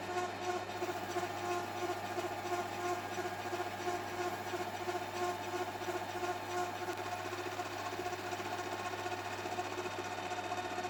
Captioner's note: lathe noise